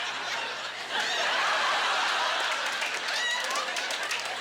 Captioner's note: audience laughter